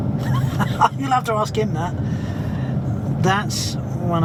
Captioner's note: laughing